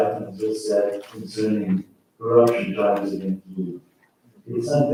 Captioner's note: faintly speaking